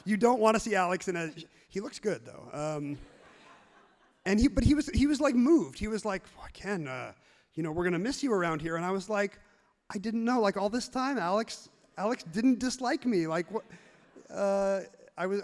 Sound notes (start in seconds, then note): 2.6 everyone laughs happily; 13.1 audience laughs genuinely